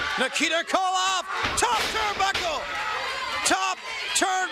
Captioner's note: crowd cheering